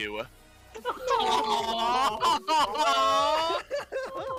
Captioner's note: collective "Awwww"